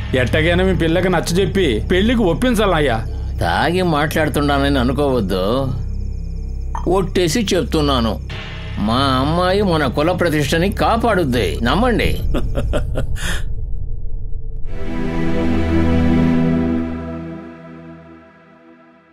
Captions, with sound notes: Convince your daughter for marriage. Don't think I'm talking under the influence of alcohol. I swear. My daughter will uphold the respect of our caste, believe it. (Laughs)